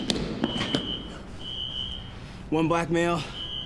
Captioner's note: footsteps thudding; alarm screeching